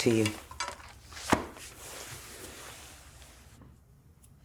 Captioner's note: book thuds